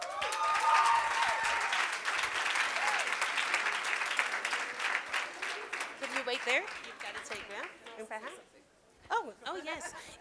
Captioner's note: applause